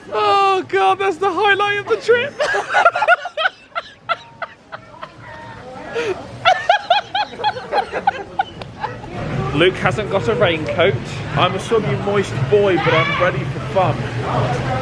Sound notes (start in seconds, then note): 2.2 both laughing